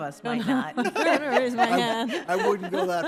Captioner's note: judges laugh